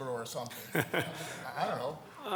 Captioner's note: laugh